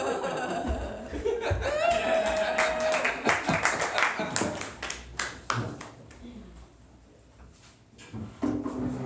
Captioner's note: applause